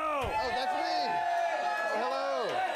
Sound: audience cheering

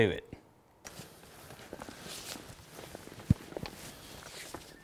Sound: rustling

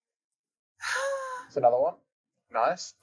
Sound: sigh of depression

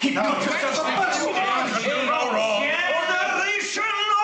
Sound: men shouting

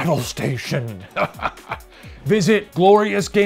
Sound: chuckles

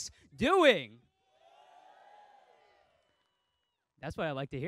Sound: crowd cheering faintly

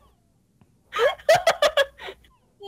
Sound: laughs

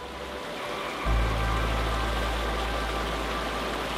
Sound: water rushing

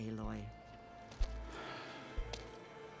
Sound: sigh

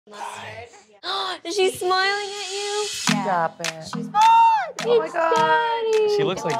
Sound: gasps

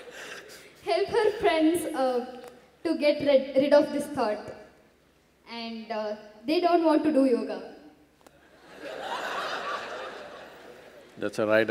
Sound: Sadhguru Laughs; laughter

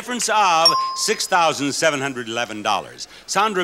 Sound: buzzer pings

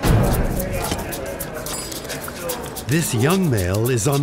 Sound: busy coffee shop conversations

